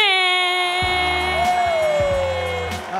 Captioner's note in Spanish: Aplausos